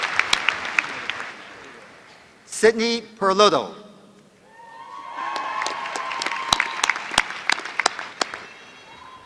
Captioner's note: applause